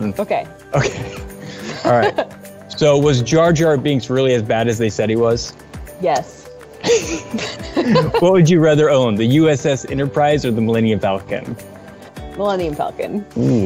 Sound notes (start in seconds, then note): 6.8 both laugh; 13.3 groans